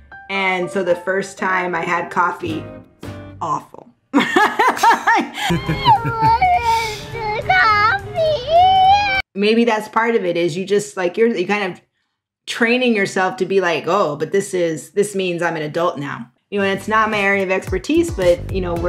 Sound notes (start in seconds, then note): 4.2 laughs; 5.5 child crying